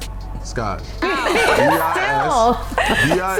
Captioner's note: chuckles